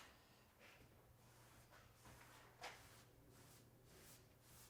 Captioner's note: brush swishing